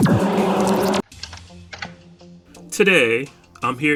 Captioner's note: VHS Cassette Tape Sounds